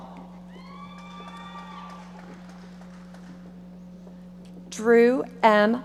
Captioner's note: audience applauding